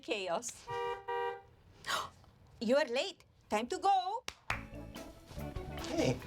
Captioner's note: horn honks; gasps